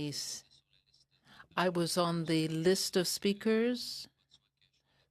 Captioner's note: speaking French